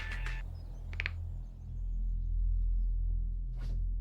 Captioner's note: neck popping